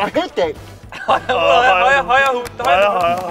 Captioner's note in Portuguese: Risada